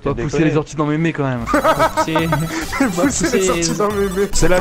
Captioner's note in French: rigole